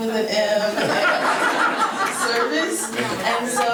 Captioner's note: members laughing